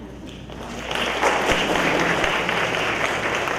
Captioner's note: crowd applauds